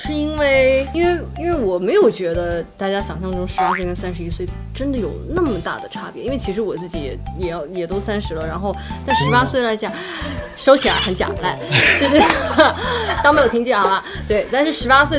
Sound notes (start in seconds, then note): 11.6 ha Ha Ha Ha